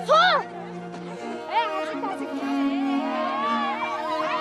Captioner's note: shouts